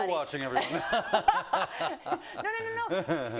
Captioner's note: laugh